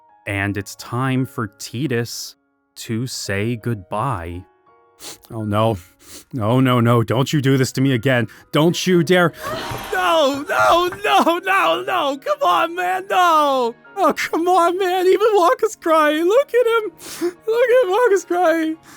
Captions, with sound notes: And it's time for Tidus to say goodbye. [sniffling] Oh, no. No, no, no. Don't you do this to me again. Don't you dare-- - [gasps] - No, no, no, no, no! Come on, man, no! Oh, come on, man! Even Wakka's crying! Look at him! Look at him! Wakka's crying!